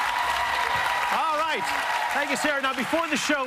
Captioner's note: applause